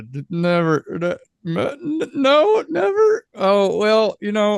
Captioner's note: stammers